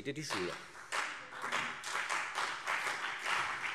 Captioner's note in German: Beifall CDU